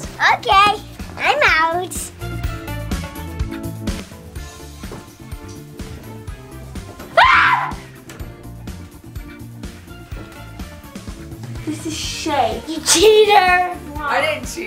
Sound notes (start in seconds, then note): 1.8 adventurous music; 7.5 shouting